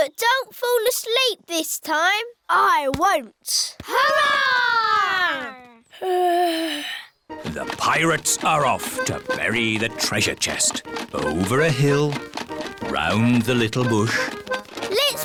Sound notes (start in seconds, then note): 6.0 yawns